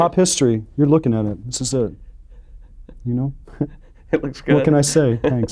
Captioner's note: laughs